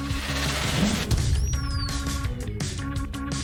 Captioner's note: whooshing